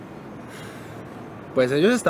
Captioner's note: sigh